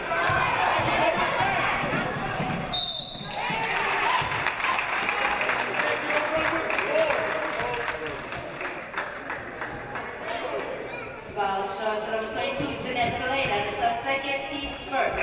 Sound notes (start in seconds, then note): 2.7 referee blows whistle; 3.5 audience applauding